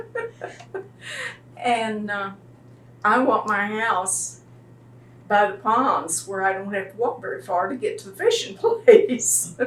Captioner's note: laughs